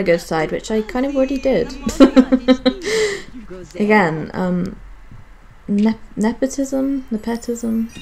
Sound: laughs

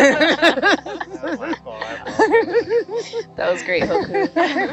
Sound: all laughing

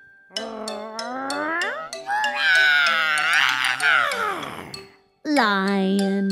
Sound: rrrrroooooooaaaaaarrrrr!

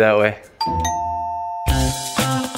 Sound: doorbell rings; upbeat music

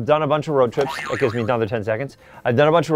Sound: boing sound

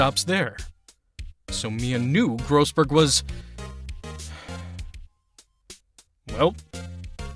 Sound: sigh

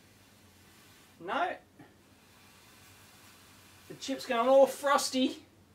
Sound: sound of spraying

